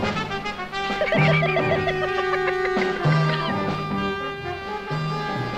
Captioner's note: upbeat instrumental music; laughing